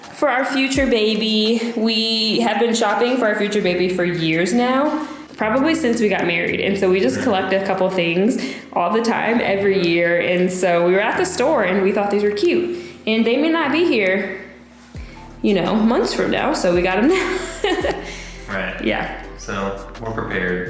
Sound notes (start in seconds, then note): 16.8 laughing